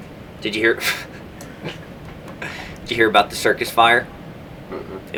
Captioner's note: laughs